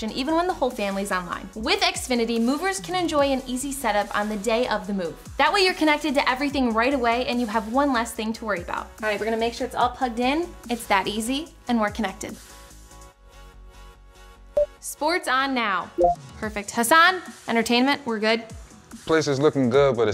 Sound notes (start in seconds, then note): 16.0 TV beeps